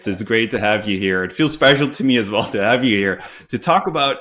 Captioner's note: chuckles